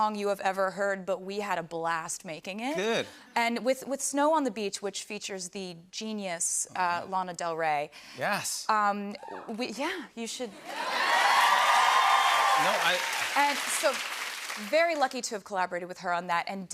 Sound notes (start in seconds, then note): 10.6 audience cheers; 10.6 cheers and applause